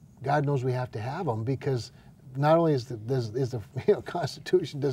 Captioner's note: laughs